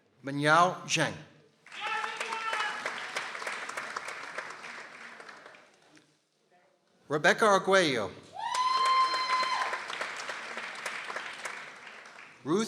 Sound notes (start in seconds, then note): 1.6 people applauding; 8.4 person exclaiming in excitement; 8.4 people applauding